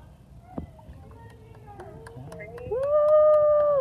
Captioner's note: people laughing; soft clapping